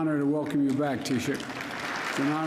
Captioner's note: applause